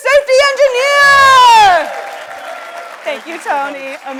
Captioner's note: audience applauds